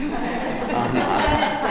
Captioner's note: laughter